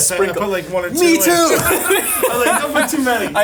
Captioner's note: both laughing